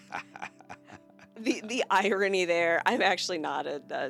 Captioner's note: laughing